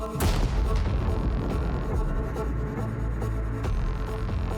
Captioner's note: explosion booms